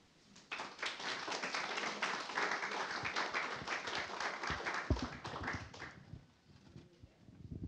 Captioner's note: applause